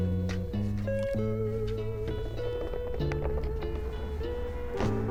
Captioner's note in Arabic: تهزهز